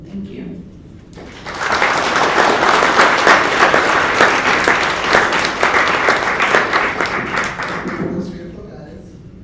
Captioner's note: applause